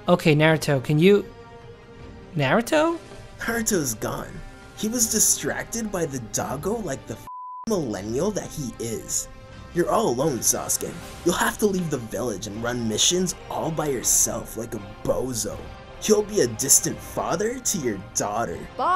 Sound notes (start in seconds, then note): 7.2 beep